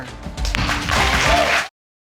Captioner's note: audience applauding